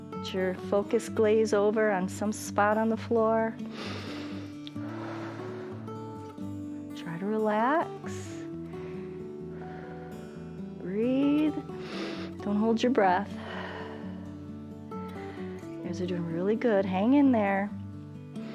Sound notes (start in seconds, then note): 3.6 inhales and exhales; 11.7 inhales